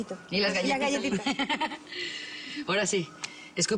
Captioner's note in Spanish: Risas